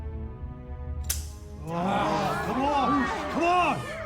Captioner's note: gun snaps; groans & jeers